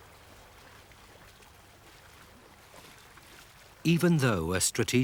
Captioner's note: water babbling